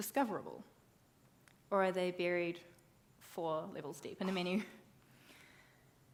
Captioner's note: laughs